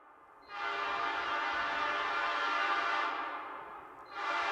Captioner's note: train horn blasts